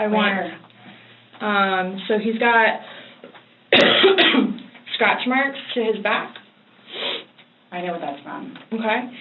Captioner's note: coughs